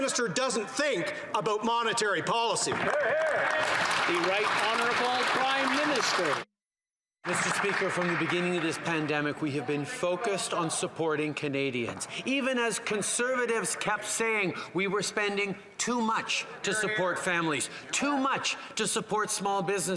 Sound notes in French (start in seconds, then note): 13.0 voix de l'interprète